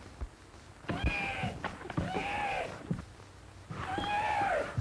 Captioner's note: neigh